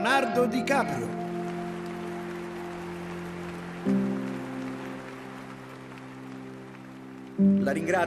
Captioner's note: applause